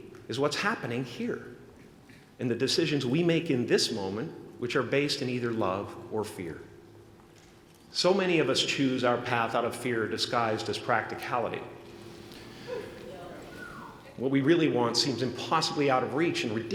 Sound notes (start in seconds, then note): none